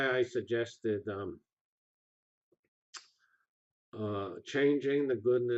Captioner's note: pause